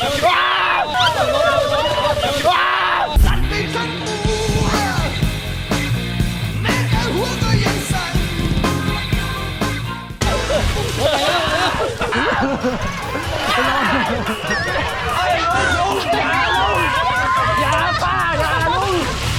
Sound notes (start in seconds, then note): 0.0 screaming from coldness; 3.3 rock music playing; 11.2 screaming from coldness